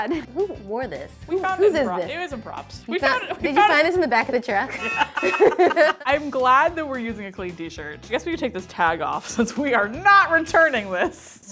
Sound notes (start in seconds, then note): 4.6 both laugh; 4.7 truck honks